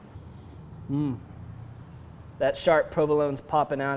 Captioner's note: inhales